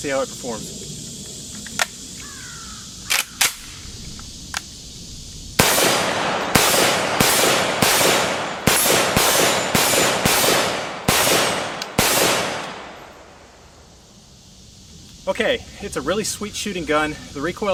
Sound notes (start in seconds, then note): 3.1 cocks gun; 5.5 gun firing